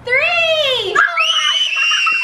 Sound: screaming

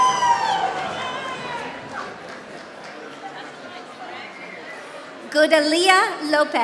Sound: applause

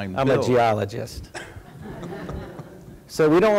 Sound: laughter

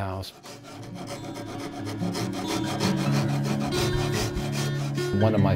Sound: sandpaper scrubbing

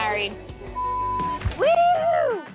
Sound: beep

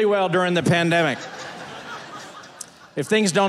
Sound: audience laughing

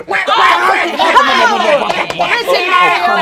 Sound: Wario and Waluigi laugh

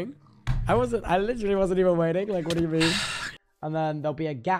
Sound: sighs

